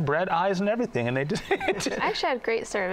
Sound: laughs

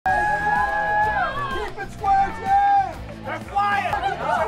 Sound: applause and shouts

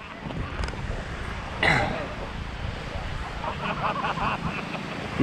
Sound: shouting to Alice; sound of waves

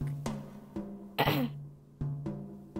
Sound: Nikki clears throat

